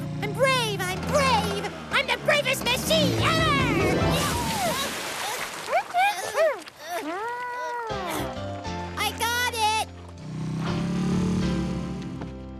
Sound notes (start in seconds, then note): 3.3 engine Revs; 4.1 splash!; 6.0 Scrambler Groaning; 9.7 engine Revs